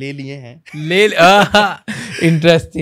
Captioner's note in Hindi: दोनों हंसते हुए